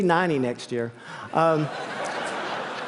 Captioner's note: laughter